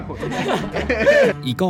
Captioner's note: laughs in familiar feeling